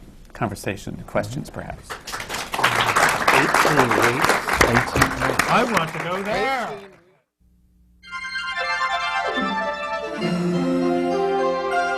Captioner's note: applause